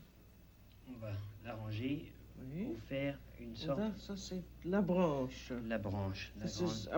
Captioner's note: both conversing in French